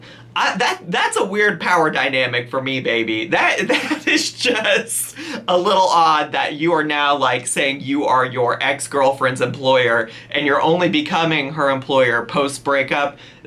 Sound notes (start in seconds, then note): 3.6 laughs